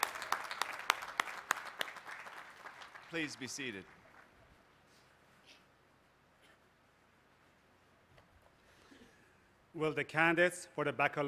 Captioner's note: applause